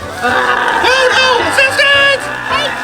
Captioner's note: roars